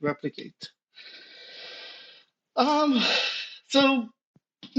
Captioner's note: breathes loudly